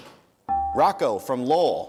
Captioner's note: dinging